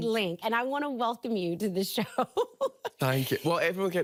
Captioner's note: laughing